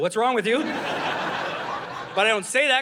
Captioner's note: audience laughing